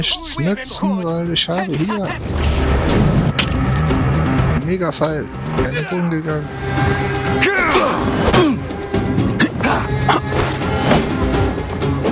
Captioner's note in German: stöhnen